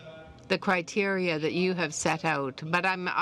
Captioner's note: speaking french